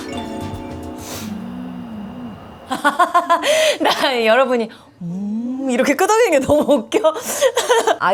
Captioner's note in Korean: 웃음